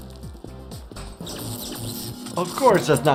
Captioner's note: water splashing; treadmill buzzing